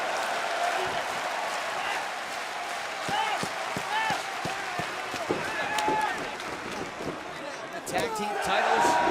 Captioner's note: crowd cheering